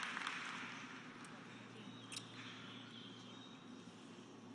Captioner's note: applause